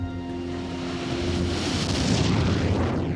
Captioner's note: rocket taking off